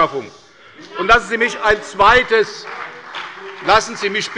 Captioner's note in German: Beifall bei der CDU und dem BÜNDNIS 90/DIE GRÜNEN